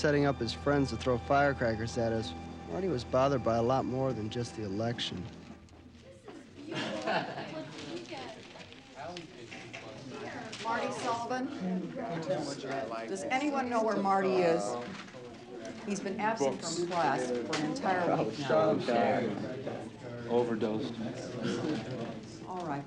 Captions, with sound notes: than just the election. (crowd murmuring) (papers rustling) - Marty Sullivan. Does anyone know where Marty is? He's been absent from class for an entire week now. - Overdosed. - Alright class, let's get started with our homework.